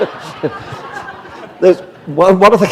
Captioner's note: laughter